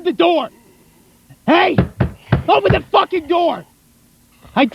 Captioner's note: slamming the door with his fists